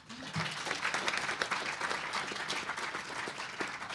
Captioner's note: applause